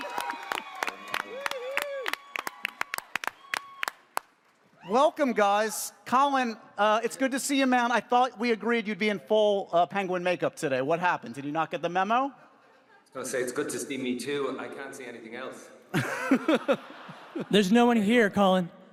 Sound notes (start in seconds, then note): 15.9 laughs